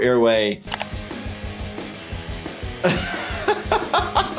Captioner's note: computer mouse clicks; upbeat rock music; laughing